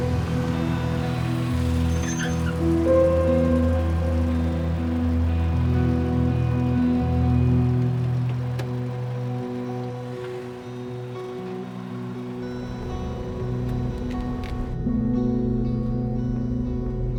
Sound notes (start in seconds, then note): 0.7 engine rumbles to a stop; 4.8 tense guitar over ominous electronic music